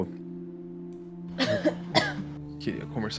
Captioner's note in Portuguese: tosse